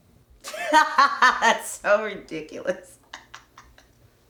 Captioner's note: laughing